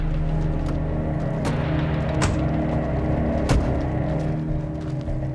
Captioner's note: doors thudding